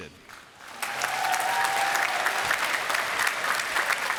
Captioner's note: applause